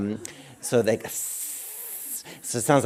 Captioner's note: hissing sound